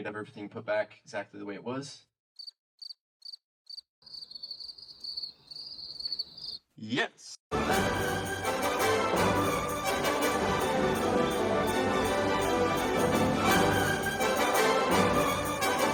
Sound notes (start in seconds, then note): 4.0 crickets